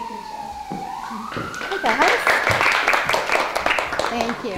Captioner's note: students clapping